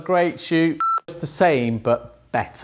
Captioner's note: computer beeps